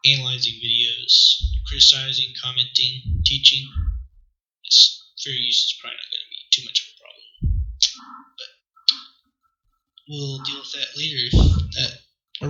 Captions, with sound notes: analyzing videos. Criticizing, commenting, teaching... tsss Fair use is probably not gonna be too much of a problem. *pffff* T but T We'll deal with that later if that